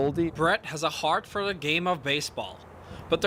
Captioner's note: voiceover